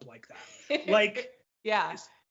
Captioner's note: laughs